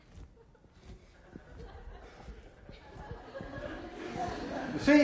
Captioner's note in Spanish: clase se ríe